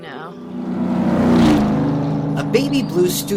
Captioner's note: engine revving